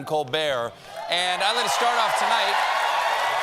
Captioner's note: cheers and applause